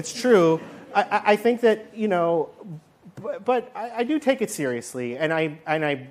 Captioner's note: laughter